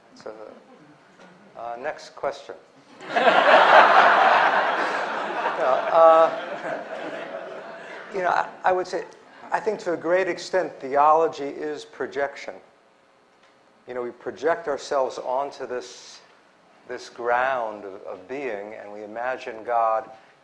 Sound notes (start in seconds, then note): 2.9 laughter